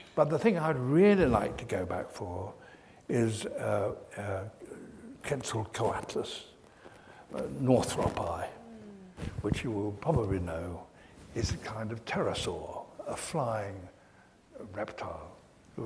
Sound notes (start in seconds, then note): none